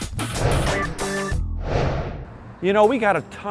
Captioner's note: swooshing